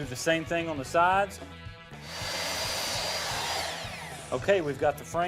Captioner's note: saw sounds